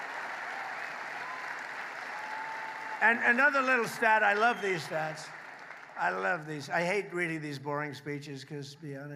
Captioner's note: applause